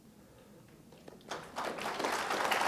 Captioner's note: applause